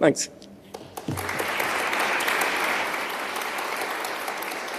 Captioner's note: applause